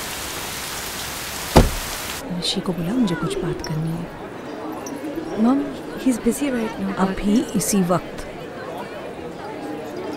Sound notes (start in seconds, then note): 1.5 Car door closes